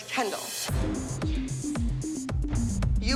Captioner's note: quietly